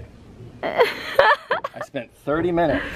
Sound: laughs

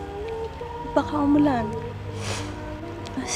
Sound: Glenda sniffles

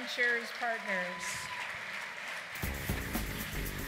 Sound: applause

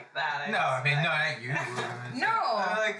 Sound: Val then mumbles

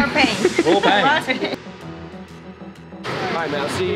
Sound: laughing

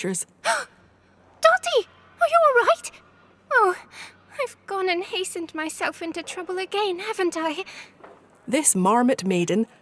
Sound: gasp!

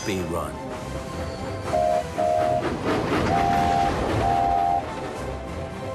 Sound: duck and oliver whistle

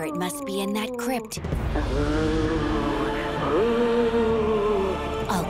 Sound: moaning

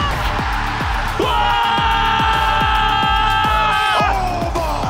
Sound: Casters screaming

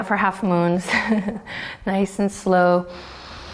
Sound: chuckles

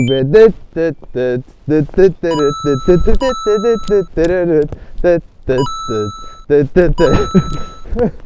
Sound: Mario coin effects; tired laugh

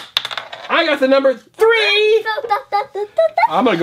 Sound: voiceover

